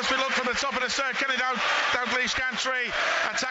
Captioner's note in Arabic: تصفيق